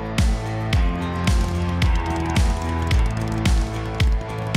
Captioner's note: engine purrs